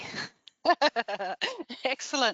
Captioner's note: laughs